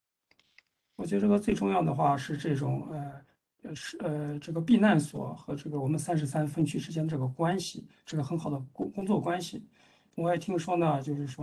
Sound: speaks in Mandarin

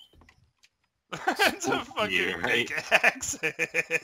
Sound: laughs

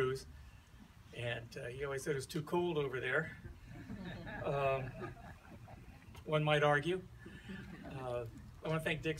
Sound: laughter

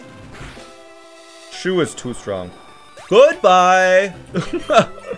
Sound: laughs

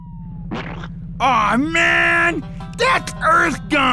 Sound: splat

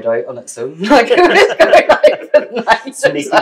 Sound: laughter

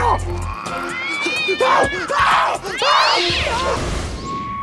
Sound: yowling, screaming; creepy music playing

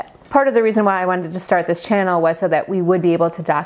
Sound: none

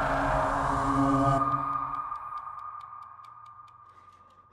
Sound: timer ticking

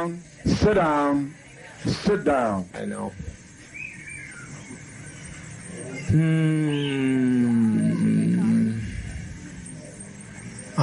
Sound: groan

